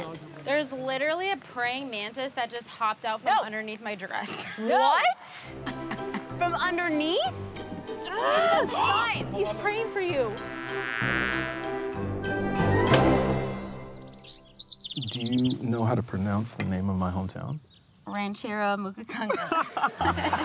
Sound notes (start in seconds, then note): 9.7 insect buzzing; 13.5 birds chirping; 19.1 laughs